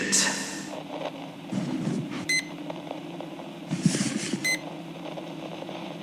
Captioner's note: Hekate rings up the books fx